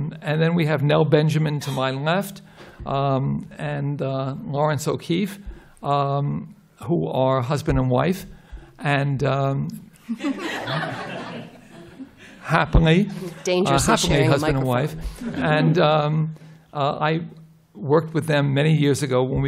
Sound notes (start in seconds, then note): 10.0 laughter